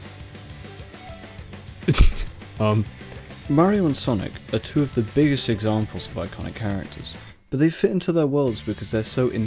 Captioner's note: laughs